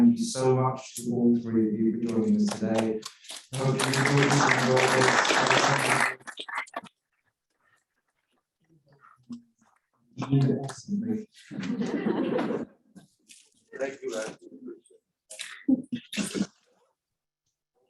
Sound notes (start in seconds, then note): 3.5 audience applause; 11.4 laughter